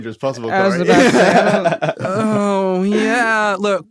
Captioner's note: laughs